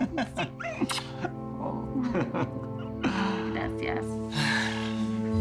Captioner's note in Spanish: Risas